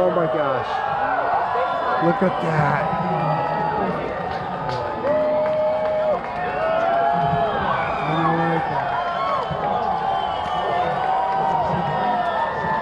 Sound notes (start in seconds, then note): 0.0 crowd counting down; 2.1 crowd cheering